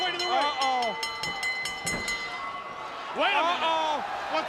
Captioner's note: bell ringing